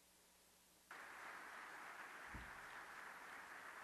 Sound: applause

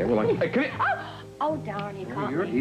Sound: snaps

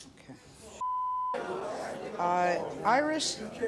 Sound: audience clamors

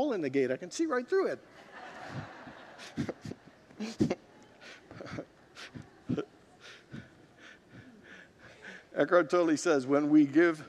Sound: congregants laugh

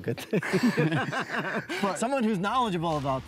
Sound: all laugh

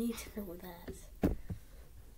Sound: somthin falls or somthin

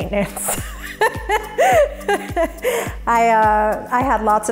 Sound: laughs

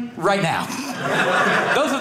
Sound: audience laughing

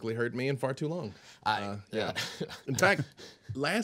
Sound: man laughing

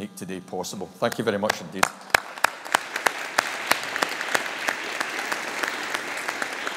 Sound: audience applauding

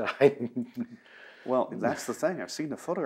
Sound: laughs

